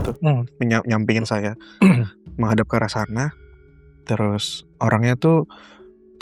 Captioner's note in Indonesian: berdehem